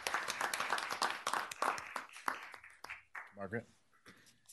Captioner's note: applause